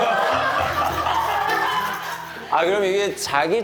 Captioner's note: giggling